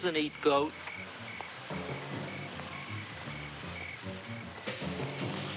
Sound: crickets chirping

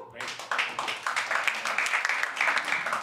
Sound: applause

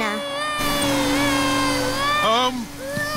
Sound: crying

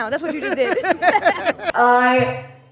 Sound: laughs

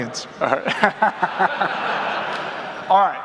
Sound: audience laughs

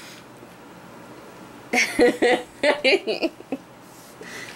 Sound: laughs

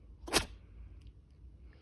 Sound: sneezes again

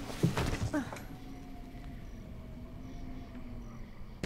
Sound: woman groaning

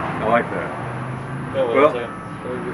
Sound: loud car sounds in the distance

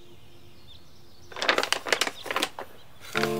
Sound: plastic cracking SFX

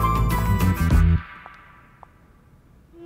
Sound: footsteps

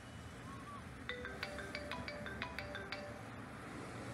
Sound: phone ring

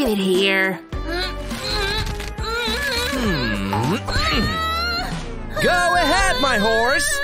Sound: groans

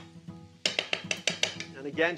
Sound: spoon clanking

